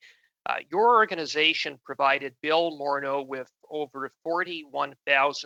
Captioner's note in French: voix de l'interprète